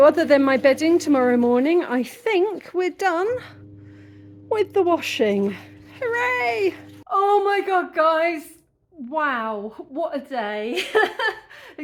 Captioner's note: laughing